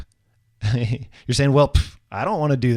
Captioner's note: laughing